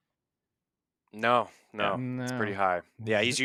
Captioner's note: laughs